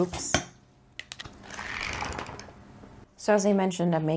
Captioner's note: book flipping noises